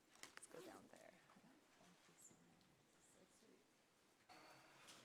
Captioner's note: people murmuring softly